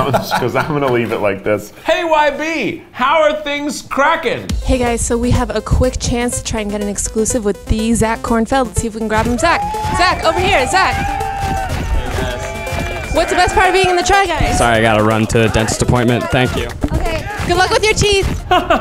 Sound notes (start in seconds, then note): 0.0 laughs; 11.2 crew cheers